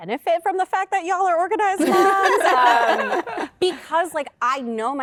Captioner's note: laughter